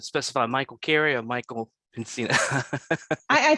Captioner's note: speaker laughing